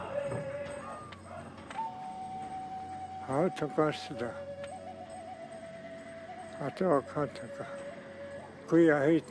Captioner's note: drums & singing; speaking Dakota